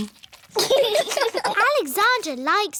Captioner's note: laughter